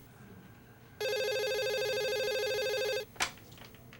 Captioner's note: phone rings